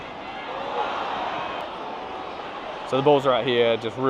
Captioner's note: crowd cheering